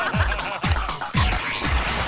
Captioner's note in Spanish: risas